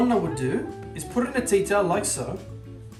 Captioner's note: speaking Italian